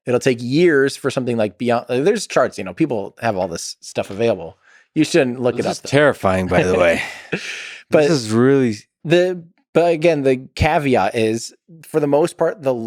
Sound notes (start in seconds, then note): 6.4 Tim laughs